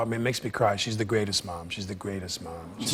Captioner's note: audience "Awws"